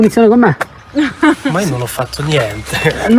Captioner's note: laughter